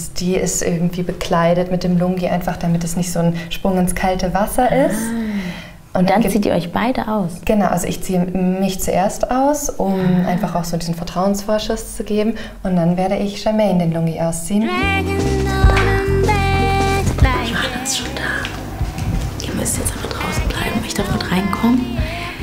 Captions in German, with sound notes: die ist irgendwie bekleidet mit dem Lungi, einfach damit es nicht so ein Sprung ins kalte Wasser ist. Ah! Und dann zieht ihr euch beide aus? - Genau, ich zieh mich zuerst aus. Um einfach auch diesen Vertrauensvorschuss zu geben. Und dann werde ich Germaine den Lungi ausziehen. (Entspannte Musik) (flüstert:) Johanna ist schon da. Ihr müsst jetzt aber draußen bleiben, ich darf mitreinkommen.